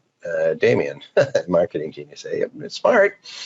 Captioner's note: laughs